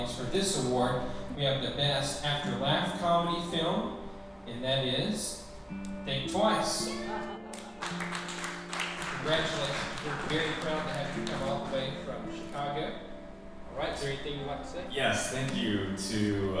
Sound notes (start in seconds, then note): 7.5 audience clapping